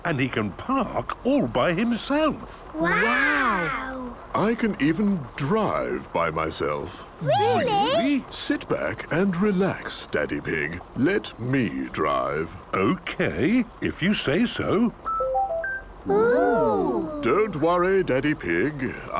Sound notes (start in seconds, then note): 15.4 car chiming